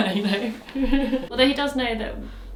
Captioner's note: laughs